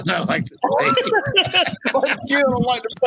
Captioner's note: laughing